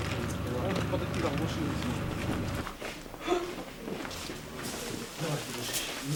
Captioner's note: background chatter, hospital sounds